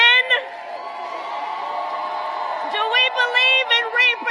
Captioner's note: applause